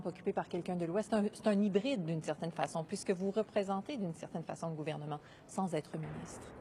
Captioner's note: speaking in French